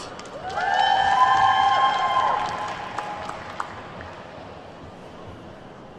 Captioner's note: attendees whooping and clapping